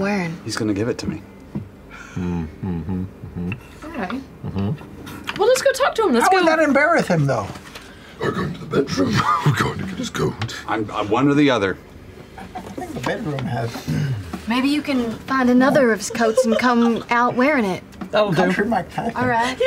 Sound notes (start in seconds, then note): 9.2 laughter; 16.1 laughter